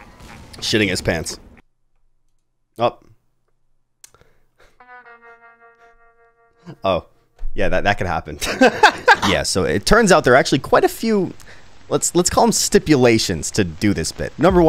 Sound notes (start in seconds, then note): 4.7 sad guitar music; 8.4 laughs